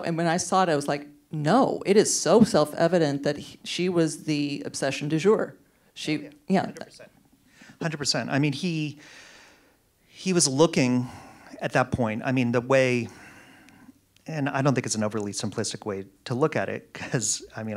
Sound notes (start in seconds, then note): none